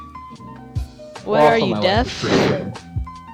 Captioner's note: gross mic breath